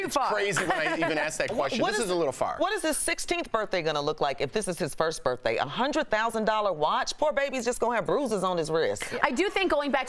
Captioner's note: laughter